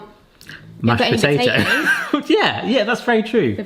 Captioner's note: chuckles